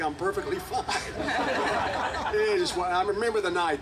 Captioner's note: group laughing